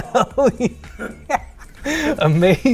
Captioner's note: laughs